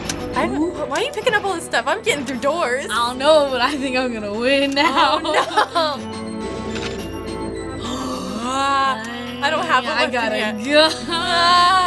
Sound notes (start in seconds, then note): 6.1 gun cocks; 7.7 gasps